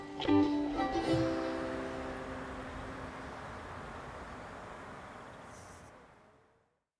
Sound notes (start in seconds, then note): 0.0 gentle ukulele music; 4.5 birds tweeting